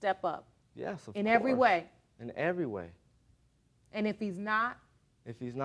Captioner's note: none